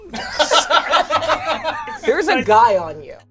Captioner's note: all laugh